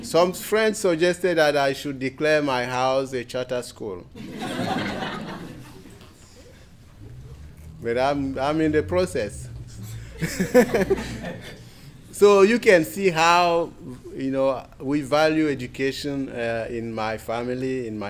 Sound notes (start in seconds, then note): 4.1 crowd laughs; 9.8 laughs